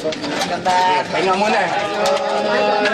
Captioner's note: overlapping chatter